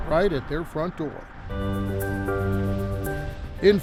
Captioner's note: motor rumbles